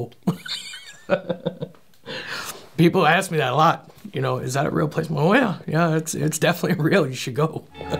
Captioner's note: laughing